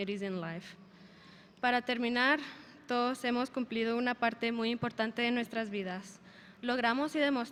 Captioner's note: speaker speaking in a foreign language